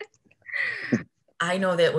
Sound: laughs

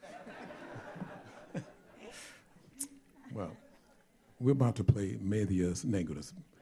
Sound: laughter

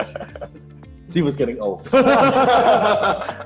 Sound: laughing

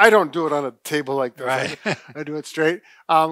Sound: laughs

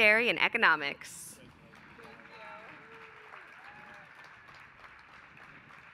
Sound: applause

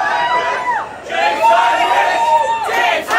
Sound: crowd

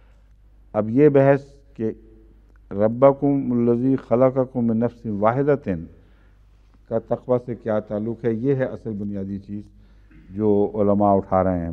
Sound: Arabic

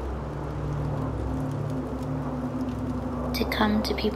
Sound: wind blows

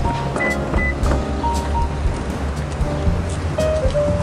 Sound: car beeping

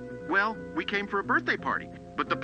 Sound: none

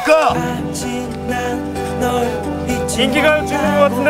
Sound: another car pulling up right behind

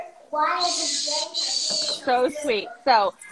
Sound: child babbles

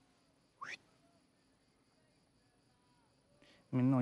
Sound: whistles

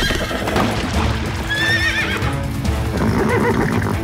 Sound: neighing

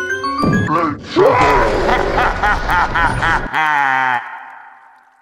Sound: Wario laughing

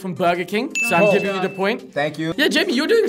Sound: bell dings

